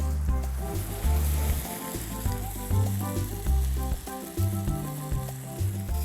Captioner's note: sizzling